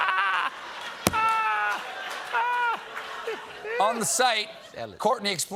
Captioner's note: laughter